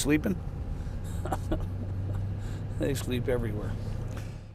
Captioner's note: chuckles